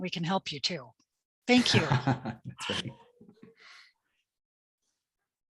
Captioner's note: chuckles